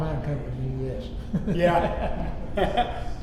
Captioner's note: Richard laughing